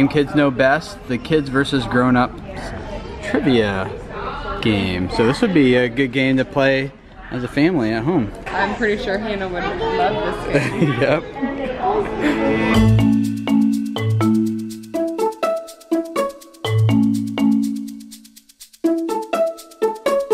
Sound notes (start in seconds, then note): 10.5 laughs; 12.2 upbeat music